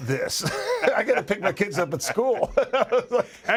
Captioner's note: laugh